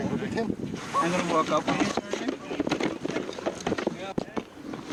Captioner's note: rescuers all chat together